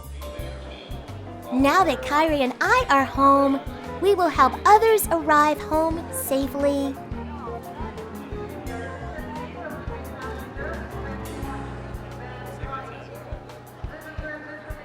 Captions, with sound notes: Now that Kyrie and I are home, we will help others arrive home safely. (airport intercom echoing) (crowds murmuring)